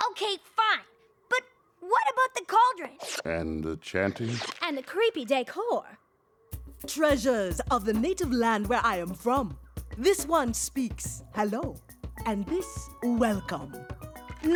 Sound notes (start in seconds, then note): none